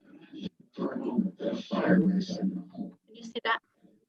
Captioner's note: muffled computer audio